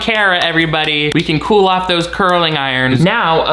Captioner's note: applauds